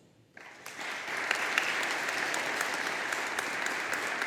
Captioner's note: audience applauding